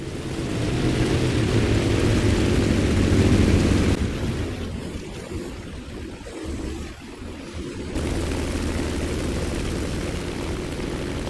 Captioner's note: aircraft Engines ,Gunfire, Flying Sounds